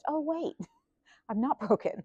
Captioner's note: laughs